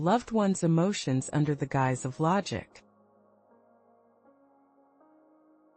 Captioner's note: pause